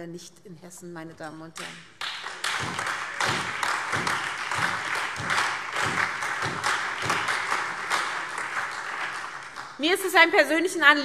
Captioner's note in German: Beifall SPD, AfD, Freie Demokraten und DIE LINKE